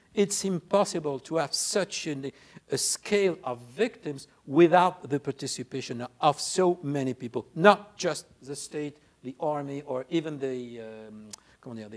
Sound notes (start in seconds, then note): none